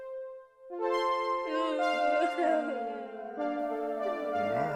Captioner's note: בכי; מוזיקה קודרת